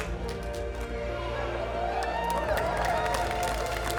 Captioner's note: laughter, applause, cheering